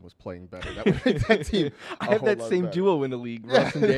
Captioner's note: laughs